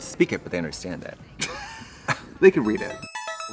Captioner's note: Trixie laughs